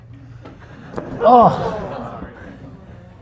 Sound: class laughs

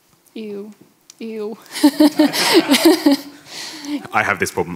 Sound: laughs

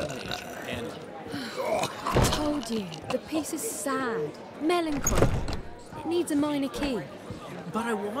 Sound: loud burp; frustrated sigh

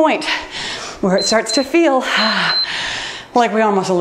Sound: timer beeps

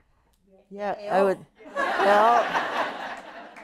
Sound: laughter

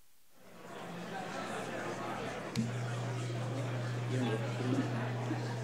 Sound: everybody faintly chatting

